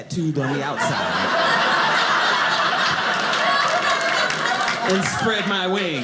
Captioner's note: audience laughing